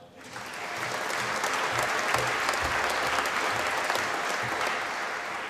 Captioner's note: applause